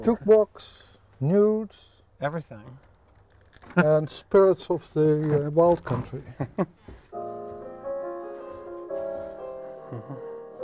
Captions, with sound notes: - Took walks, nudes. - Everything (laughs). - And spirits of the wild country. (gentle piano music)